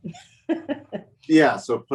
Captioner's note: laughs